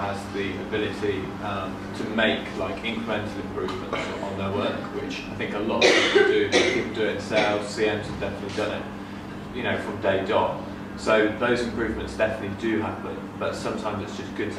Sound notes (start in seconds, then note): 5.7 coughing drowns out speaker